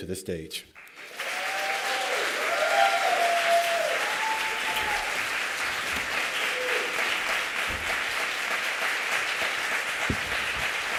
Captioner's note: applause and Cheering